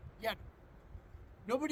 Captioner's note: wind